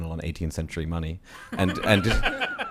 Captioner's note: laughter